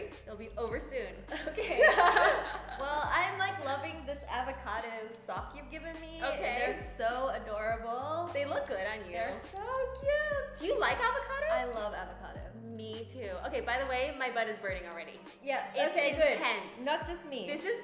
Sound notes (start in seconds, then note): 1.4 laughs